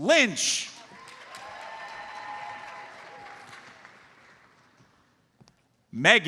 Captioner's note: audience cheers and applauds